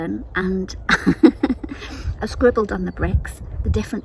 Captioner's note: laughs